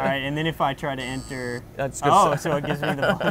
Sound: buzzer

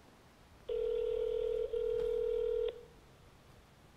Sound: phone ringing

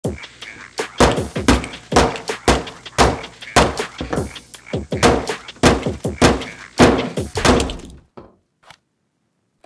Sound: hammer thudding

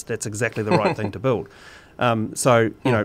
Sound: laughs

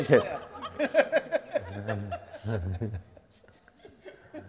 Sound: audience laughing

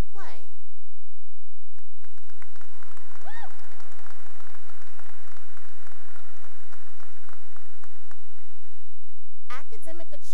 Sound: cheering and applause

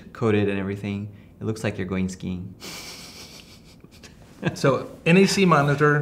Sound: laughing

